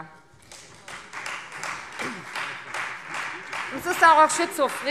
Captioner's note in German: Beifall Freie Demokraten